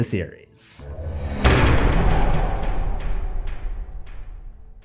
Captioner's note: impact